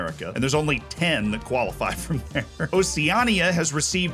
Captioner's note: laughs